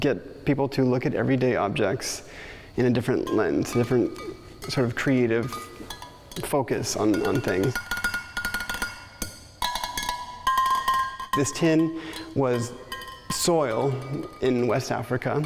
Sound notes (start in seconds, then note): 8.2 rhythmically tapping the tin